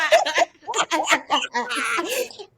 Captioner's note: laughing